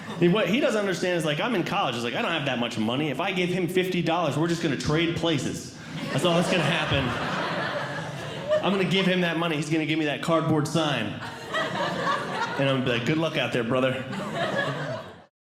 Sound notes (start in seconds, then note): 5.8 audience Laughing; 10.9 audience Laughing